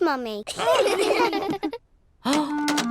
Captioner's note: all laugh